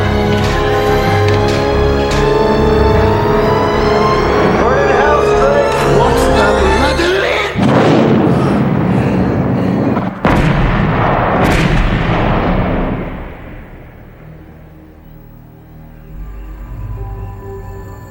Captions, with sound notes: - Where in the hell's Strake? - (speaking in foreign language) (explosion booming)